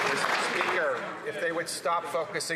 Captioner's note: some Applause